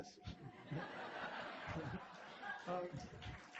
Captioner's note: laughter